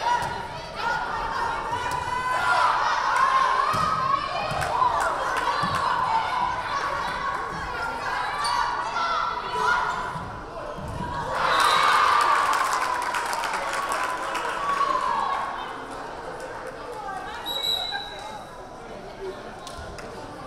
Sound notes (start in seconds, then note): 11.0 crowd cheering; 11.5 whistle blaring; 17.4 whistle blaring